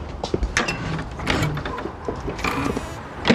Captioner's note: gate creaking